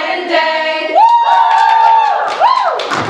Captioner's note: cheering